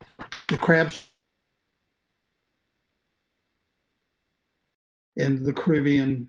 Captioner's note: recording cuts out